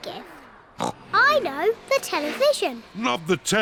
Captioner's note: oinks